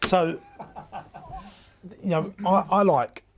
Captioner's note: laughing